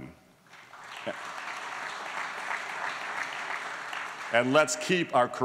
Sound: applause

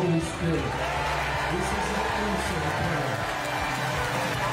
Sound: crowd cheering

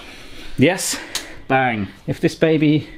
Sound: switch clicks

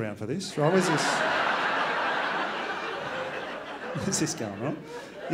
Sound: crowd laughs

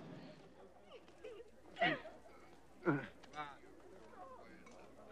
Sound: people talking

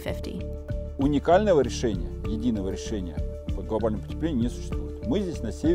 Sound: speaking in Russian

